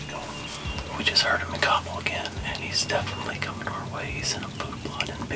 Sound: whispering

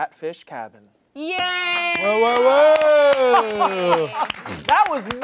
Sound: all cheering

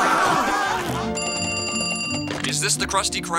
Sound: ringing

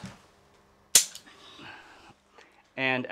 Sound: gun clicking

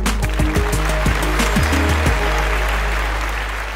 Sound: applause

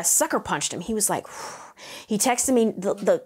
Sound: exhales

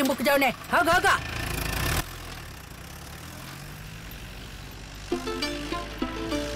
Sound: car Sound

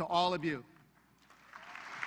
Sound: applause

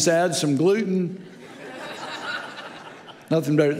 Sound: audience laughing

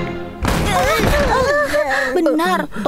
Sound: gasps

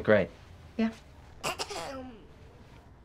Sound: little girl clears throat

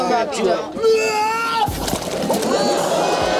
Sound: screaming

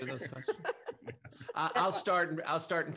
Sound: laughter

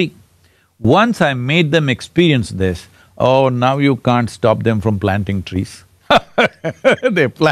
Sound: laughs

